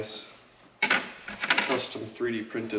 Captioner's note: pieces clattering